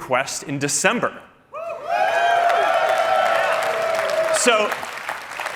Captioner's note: cheering